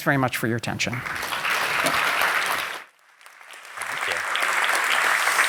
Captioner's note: applause